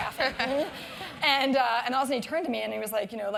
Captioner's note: laugh